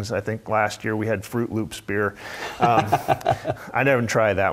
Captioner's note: laugh